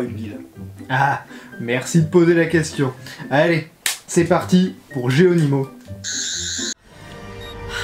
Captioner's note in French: bruit aigu